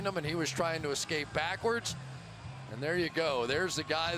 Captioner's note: cheering